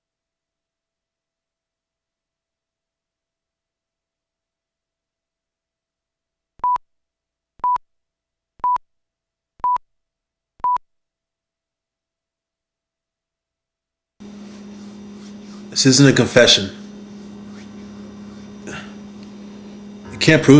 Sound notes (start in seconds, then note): 6.9 beeping